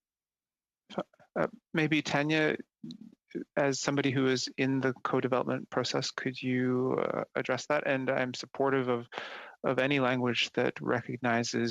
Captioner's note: speaking French